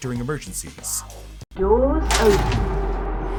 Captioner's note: doors open